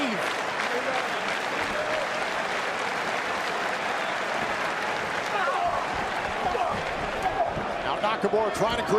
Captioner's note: crowd cheering